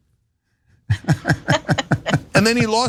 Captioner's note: laugh